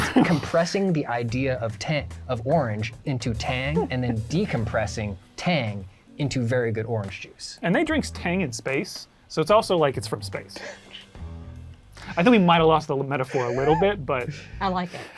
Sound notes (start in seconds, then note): 10.8 laughing